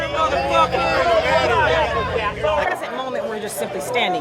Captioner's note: crowd shouting